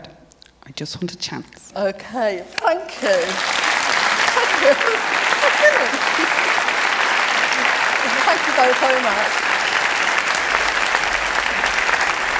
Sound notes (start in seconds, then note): 2.9 applause